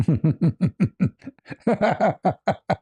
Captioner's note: ketawa